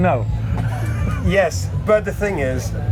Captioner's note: laughs